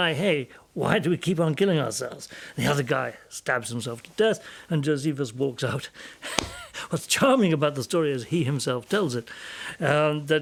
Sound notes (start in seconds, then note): 6.3 laughs